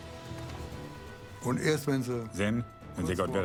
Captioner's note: speaking in foreign language